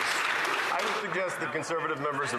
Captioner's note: some Applause